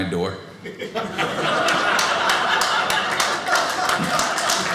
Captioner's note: audience laughing; audience applauding